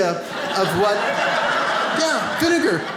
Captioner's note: audience laughs